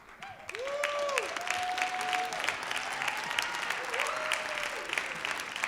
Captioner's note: applause